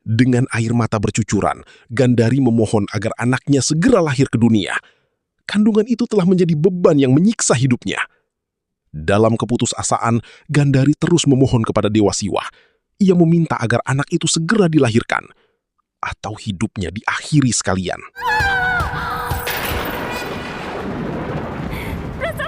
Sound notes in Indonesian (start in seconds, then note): 18.2 berteriak